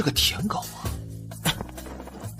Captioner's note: cough cough